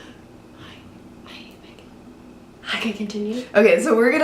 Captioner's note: whispers